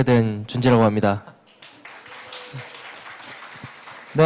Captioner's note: claps